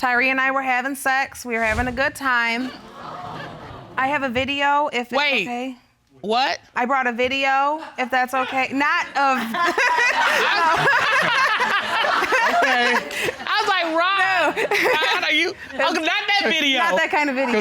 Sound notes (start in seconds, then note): 11.0 laughs